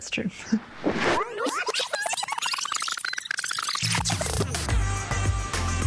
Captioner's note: tape rewinding; upbeat music